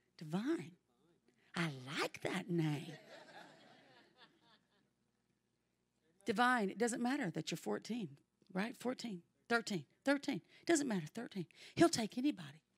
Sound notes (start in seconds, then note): 2.9 congregation laughs